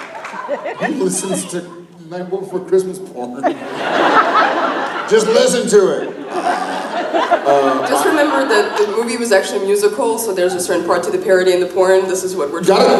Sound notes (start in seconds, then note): 4.2 laughs